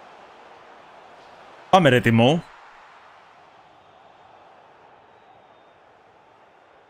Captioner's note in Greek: χειροκρότημα